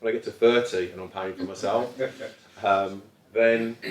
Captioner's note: audience chuckles